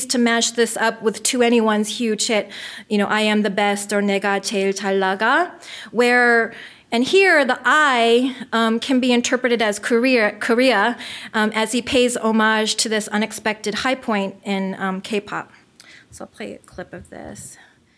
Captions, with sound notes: to mash this up with To Anyone's huge hit, I Am the Best or (foreign language), and here the "I" can be interpreted as Korea as he pays homage to this unexpected high point in K-pop. So let me get a clip of this.